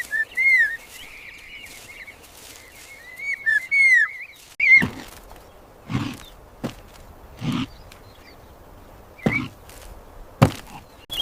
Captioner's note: whistles